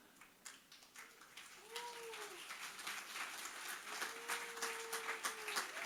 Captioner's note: audience applauding